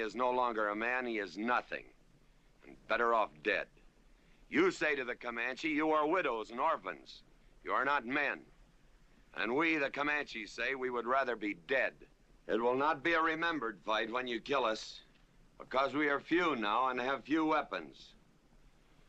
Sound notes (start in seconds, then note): none